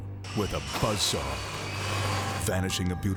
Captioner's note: saw buzzing